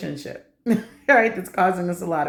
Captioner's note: laughter